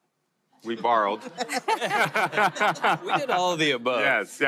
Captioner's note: laughter